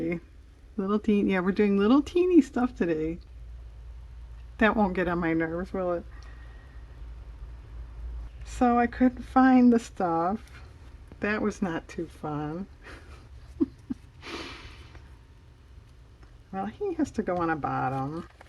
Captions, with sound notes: little teeny, yeah we're doing little teeny stuff today, that won't get on my nerves, will it? so I couldn't find the stuff, that was not too fun (laughs) well he has to go on a bottom